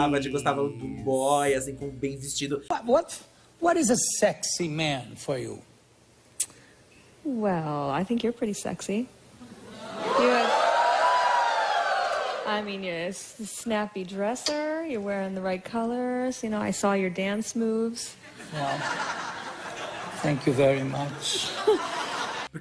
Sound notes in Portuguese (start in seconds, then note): 9.7 plateia exclama; 18.3 risos